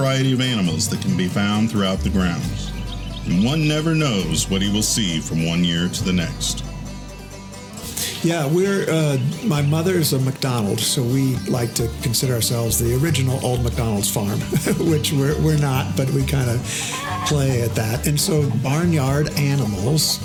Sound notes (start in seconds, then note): 14.2 laughing; 16.8 chickens clucking